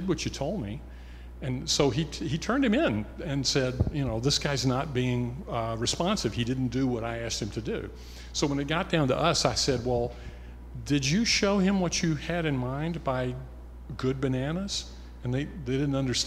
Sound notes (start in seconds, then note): none